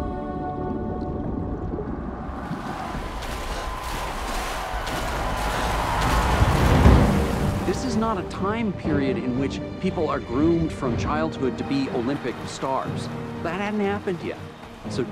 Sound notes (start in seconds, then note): 3.4 water splashing